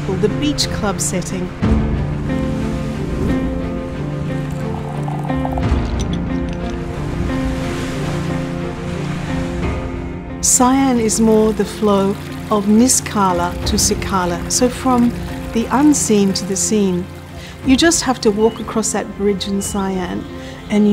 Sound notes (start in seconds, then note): 1.7 gentle music continues; 3.9 liquid sloshing; 4.4 ice cubes clinking; 4.4 flame roaring; 7.1 waves lapping